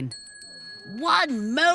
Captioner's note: bell rings again